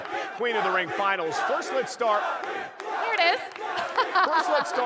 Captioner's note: laughter